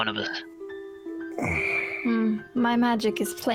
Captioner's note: grunt